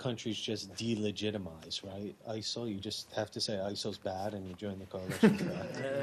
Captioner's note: laughter